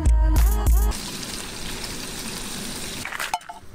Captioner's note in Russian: звук жарящейся тушенки